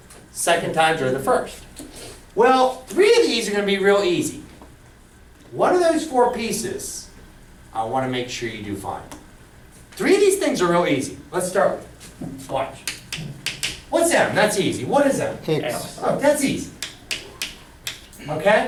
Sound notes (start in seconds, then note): 16.1 voiceover